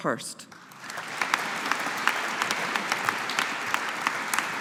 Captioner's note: audience applauding